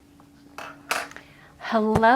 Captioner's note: tapping countertop